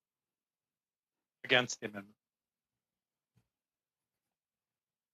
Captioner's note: speaking French